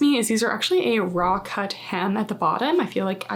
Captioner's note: text whooshing